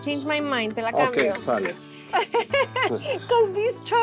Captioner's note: laughs